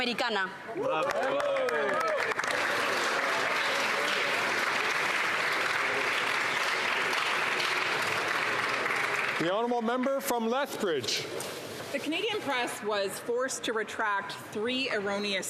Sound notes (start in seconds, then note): 9.3 some Applause